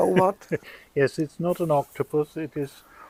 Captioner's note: laughing